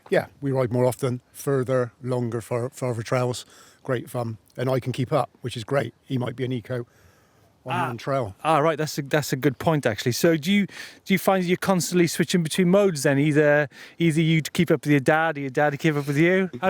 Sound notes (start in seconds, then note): none